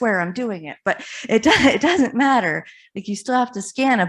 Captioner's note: chuckles